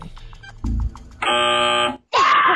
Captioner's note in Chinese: 嗡嗡聲